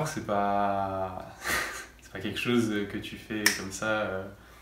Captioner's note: clap